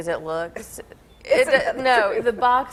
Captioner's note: laughing